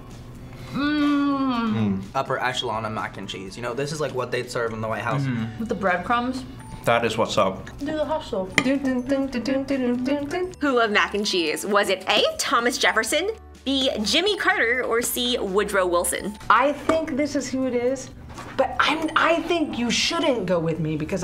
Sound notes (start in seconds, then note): 7.8 both hum